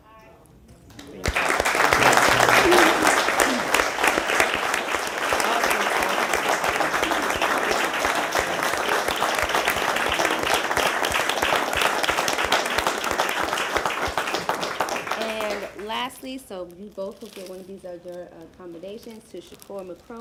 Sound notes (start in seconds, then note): 4.4 applause